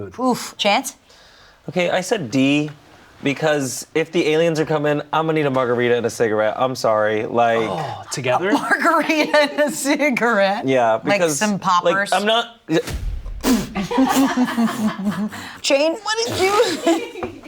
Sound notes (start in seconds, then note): 9.3 laughs; 12.8 dramatic music; 13.7 people laughing